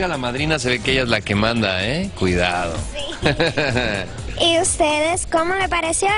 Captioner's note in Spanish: risas